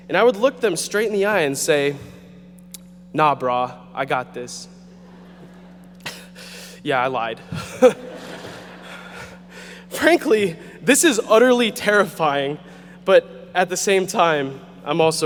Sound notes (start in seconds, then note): 5.3 audience chuckling